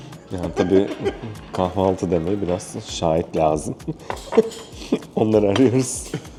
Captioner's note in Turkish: kahkaha